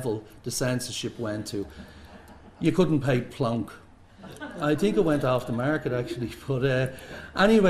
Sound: laughter

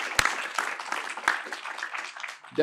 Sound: applause

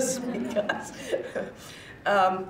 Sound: chuckles

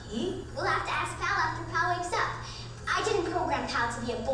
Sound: voiceover

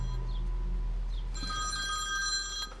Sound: ringing continues

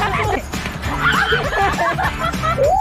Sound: screams; laughs

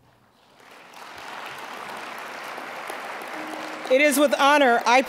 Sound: applause

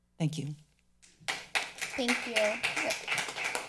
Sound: people applauding

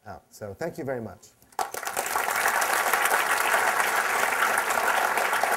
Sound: applause

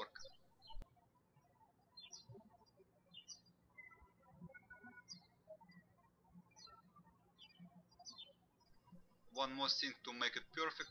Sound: birds chirping

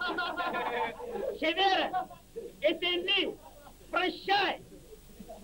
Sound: Mari language

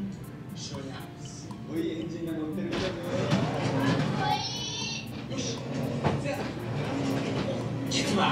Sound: laughs

